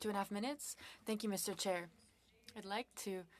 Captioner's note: speaking French